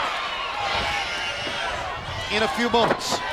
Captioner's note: crowd cheering